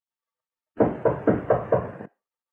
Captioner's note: knock